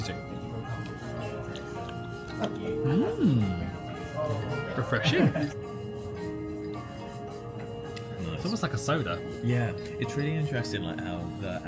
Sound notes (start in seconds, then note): 2.2 smacks lips